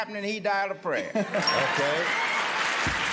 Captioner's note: laughter and applause